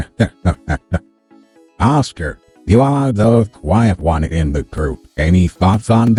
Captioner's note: giggling